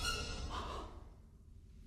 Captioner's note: gasps